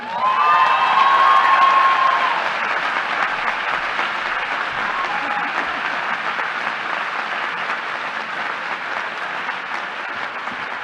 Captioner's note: applause